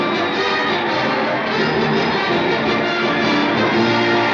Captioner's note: crowd cheering; fight song theme playing